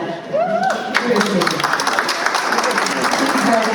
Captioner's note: applause